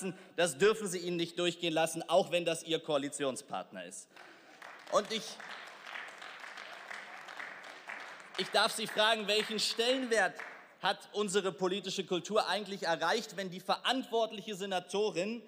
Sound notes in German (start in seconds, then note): 4.1 Beifall